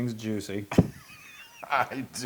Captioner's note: laugh